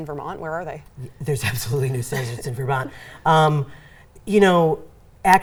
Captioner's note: laughs